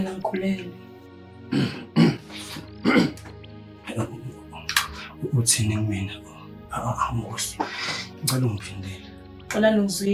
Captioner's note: clearing the throat